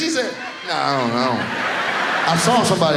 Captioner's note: audience laughs